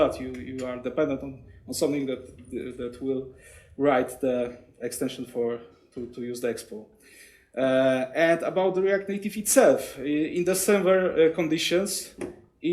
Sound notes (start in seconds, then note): none